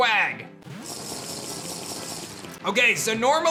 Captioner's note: drinking noise